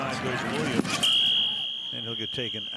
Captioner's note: whistle